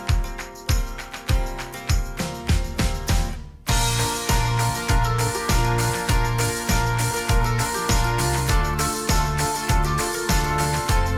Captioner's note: applause